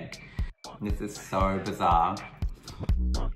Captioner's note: voiceover